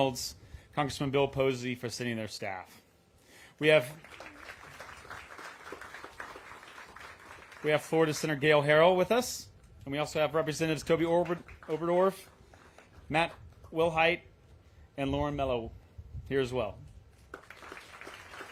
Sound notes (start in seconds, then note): 3.7 applause